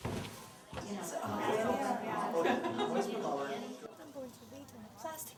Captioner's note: people chattering